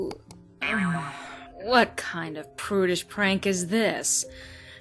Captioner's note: groan